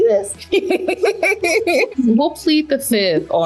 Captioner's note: both laughing